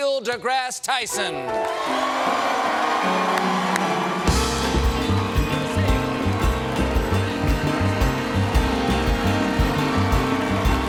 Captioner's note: band playing; cheers and applause; band playing; cheers and applause